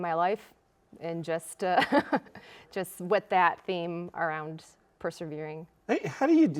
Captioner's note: laughs